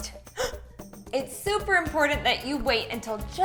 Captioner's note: gasps